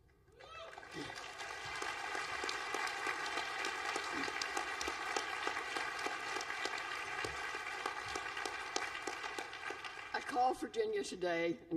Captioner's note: applause